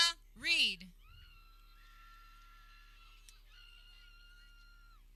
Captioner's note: people cheering